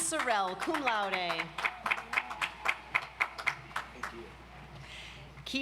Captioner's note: audience applauds